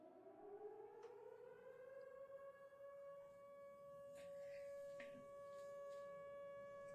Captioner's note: air raid sirens